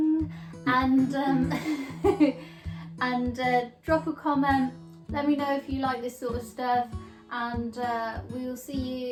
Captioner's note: laughs